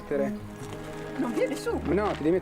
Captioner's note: man speaking native language